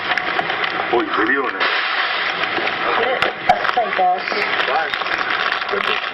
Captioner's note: group talking indistinctly